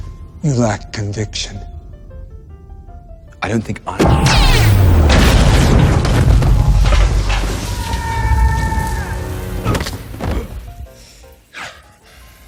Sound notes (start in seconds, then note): 7.4 yelling; 9.5 grunts